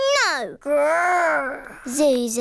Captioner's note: none